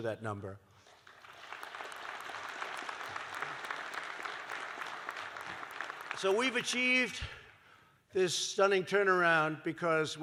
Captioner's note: applause